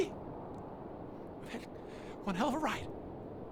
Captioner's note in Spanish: conteniendo llanto